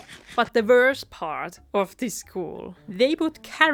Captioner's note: laught and oinks